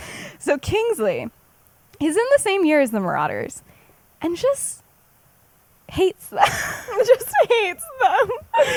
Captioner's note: laughs